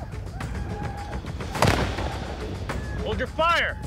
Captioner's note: gunshot